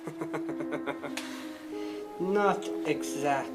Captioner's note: snickers